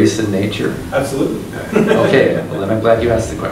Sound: laughs

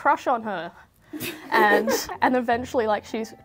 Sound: laughs

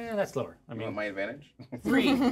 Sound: laughs

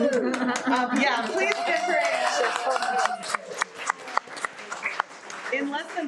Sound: everyone applauds and cheers

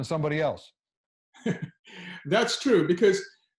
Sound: doctor laughs

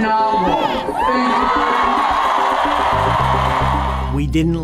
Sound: crowd cheers

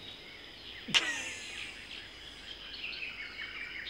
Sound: exhale

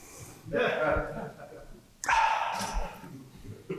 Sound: laughter

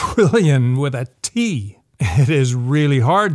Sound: laughs

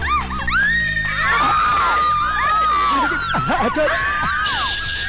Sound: screaming

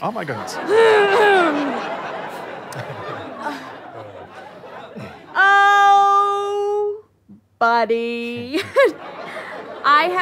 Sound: clears throat loudly

